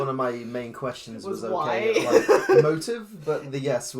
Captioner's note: laughs